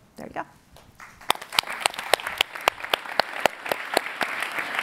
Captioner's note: applauding